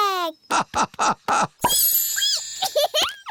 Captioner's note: laughing; squeaking; giggling